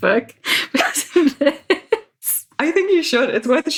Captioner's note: laughs